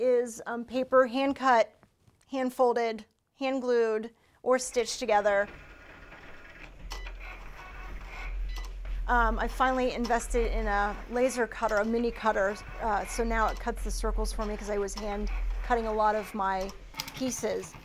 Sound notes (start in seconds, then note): 6.8 beeping